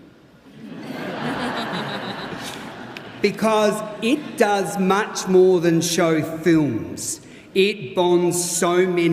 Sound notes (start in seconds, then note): 4.5 laughter